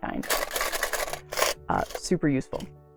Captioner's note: rattle